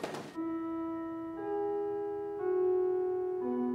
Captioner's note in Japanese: チャイムの音